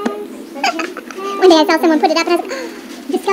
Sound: sharp inhale

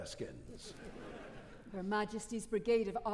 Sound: audience laughing

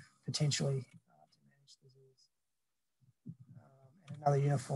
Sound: audio cuts out

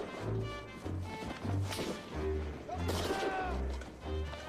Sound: gunfire; shouting continues

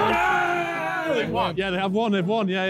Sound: men cheering

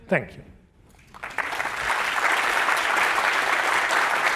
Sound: applause

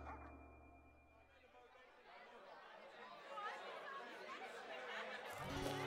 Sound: crowd talking; gentle guitar music

